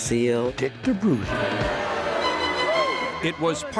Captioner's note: bright cheerful music; audience cheering